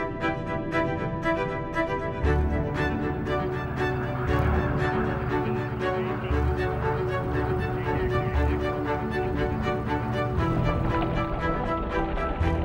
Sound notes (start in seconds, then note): 1.0 water rushing; 8.0 engine roaring